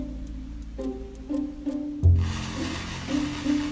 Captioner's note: fire burning